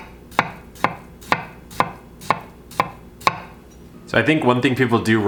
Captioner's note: knife knocking